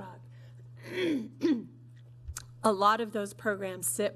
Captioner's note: clearing throat